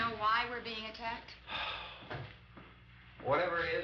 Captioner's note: sighs